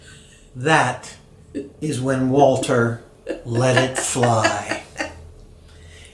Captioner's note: laughing